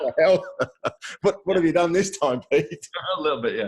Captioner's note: laughs